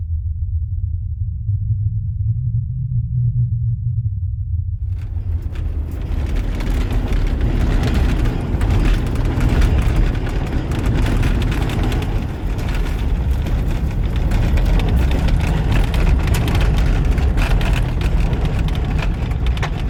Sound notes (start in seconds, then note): 6.0 car engine revving; 6.0 metals cranking